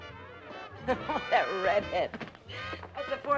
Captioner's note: chuckling